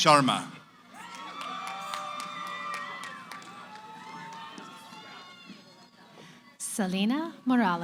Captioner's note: cheering